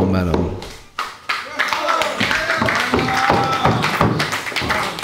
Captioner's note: applause